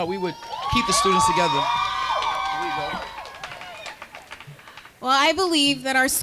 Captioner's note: crowd cheering